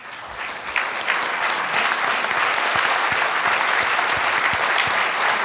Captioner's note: applause